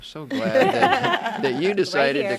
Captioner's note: laughing in unison